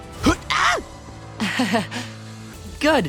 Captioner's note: laughing